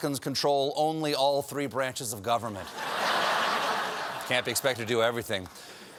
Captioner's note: laughter